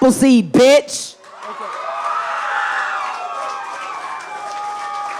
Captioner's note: audience applauding